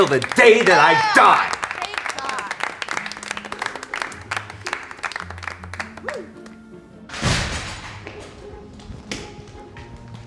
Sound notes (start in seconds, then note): 1.5 audience cheers